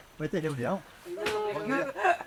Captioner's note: laughs